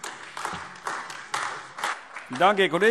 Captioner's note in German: Beifall AfD